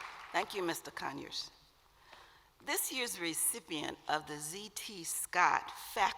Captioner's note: applause